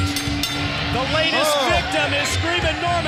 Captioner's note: bell ringing